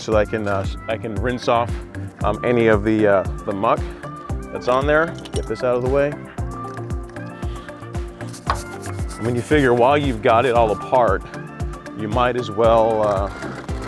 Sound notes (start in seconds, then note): 8.1 scrapping sound